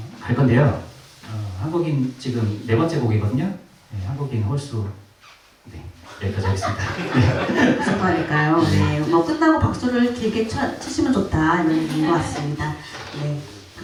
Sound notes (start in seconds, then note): 6.1 laughs